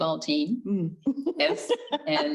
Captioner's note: giggles